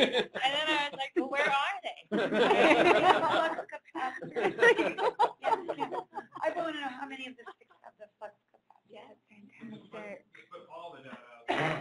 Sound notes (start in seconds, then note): 2.1 laughter